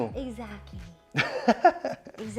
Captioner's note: laughs